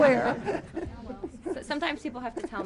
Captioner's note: laughter